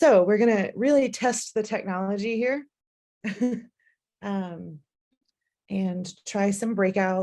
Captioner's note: laughter